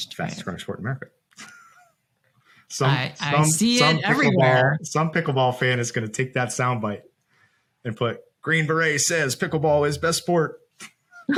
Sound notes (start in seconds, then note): 1.4 laughs